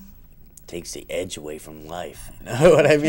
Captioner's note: laughs